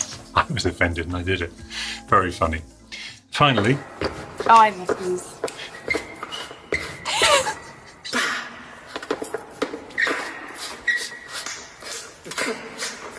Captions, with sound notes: -I was offended and i did it! Very Funny. Finally [Sounds of dancing squeaking feet, with no music]